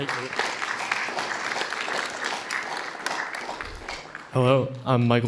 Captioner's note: audience applauding